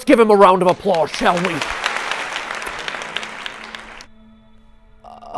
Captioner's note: applause; cuts applause